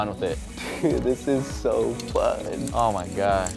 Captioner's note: laughs